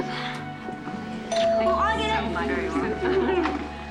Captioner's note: doorbell rings